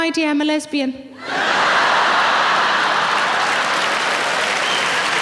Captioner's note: audience laughing